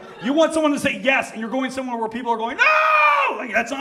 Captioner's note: screams